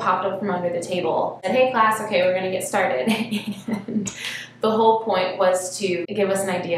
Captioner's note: laughs